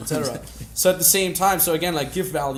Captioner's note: laughs